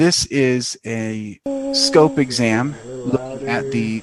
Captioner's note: lady humming